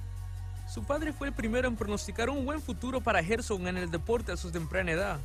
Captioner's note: speaking in Spanish